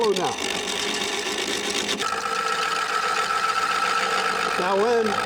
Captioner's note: scrapers grinds against wood